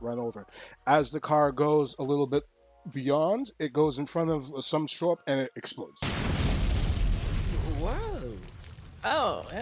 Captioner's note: explosion